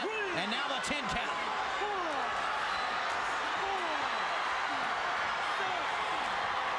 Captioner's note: crowd chattering